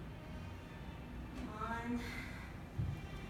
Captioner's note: sigh